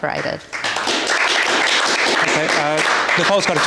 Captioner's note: applause